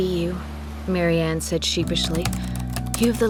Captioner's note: typing